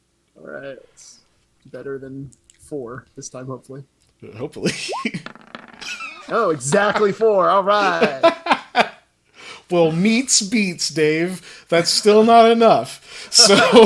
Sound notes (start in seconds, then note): 5.8 laughs; 7.6 laughs even harder